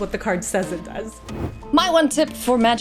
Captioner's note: air whooshing